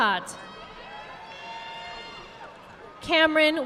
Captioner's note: audience applauding